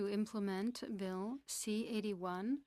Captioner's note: speaking French